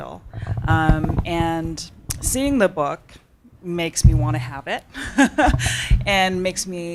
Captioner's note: laughs